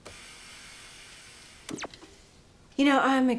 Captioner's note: static; tv switches off